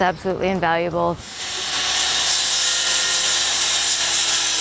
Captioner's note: saw buzzing